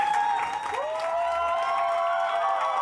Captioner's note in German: Jubelrufe